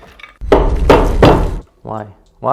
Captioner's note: banging